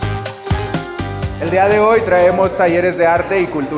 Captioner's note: speaking Spanish